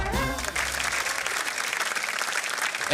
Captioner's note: applause